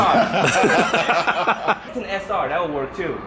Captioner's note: laughing